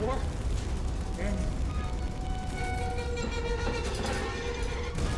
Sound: door creaking

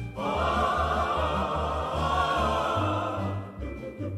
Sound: festive Screaming

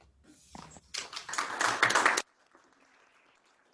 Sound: applause

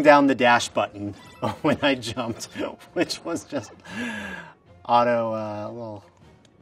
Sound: chuckle

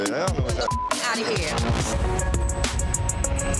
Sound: beep; soft music

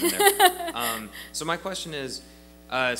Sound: laughs

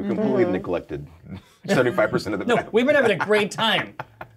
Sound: laughs

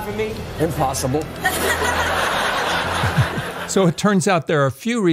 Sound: audience laughs

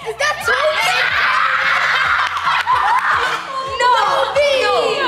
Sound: group screaming; group chattering and laughing

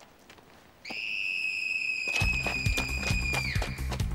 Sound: shrieking

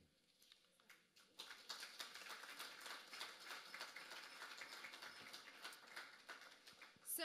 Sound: applause

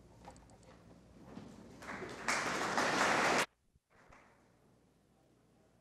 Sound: audience applauding

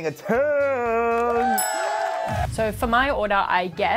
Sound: cheering

